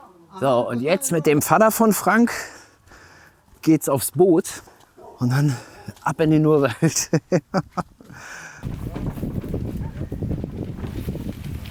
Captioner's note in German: gelächter